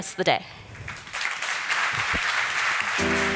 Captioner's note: applause